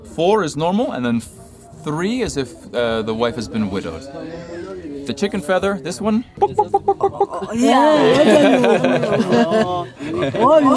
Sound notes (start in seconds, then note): 6.2 making clucking sounds; 9.0 all laughing